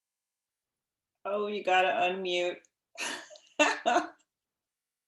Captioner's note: laughing